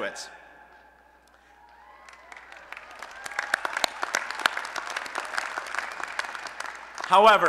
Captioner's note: applause and Cheering